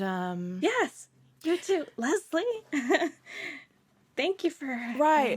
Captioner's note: laughs